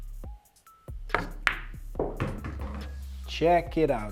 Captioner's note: upbeat music continues; ball bangs